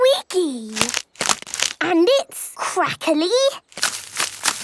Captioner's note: crackling